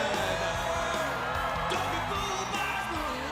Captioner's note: crowd cheering